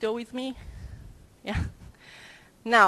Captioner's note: chuckle